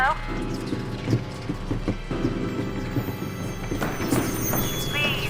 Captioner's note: shoes pounding